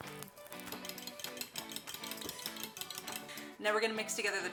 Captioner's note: spoon stirring